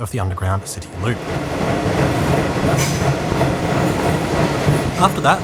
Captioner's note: Hitachi wheel flat echoing off wall: BANG BANG BANG BANG etc